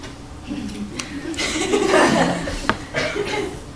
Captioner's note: laughing